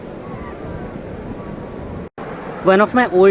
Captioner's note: sound of sea waves